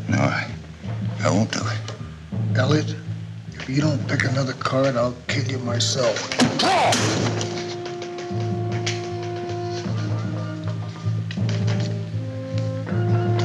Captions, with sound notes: - No, I won't do it. - Elliot, if you don't pick another card, I'll kill you myself. Draw! [loud thud] [suspenseful orchestral music]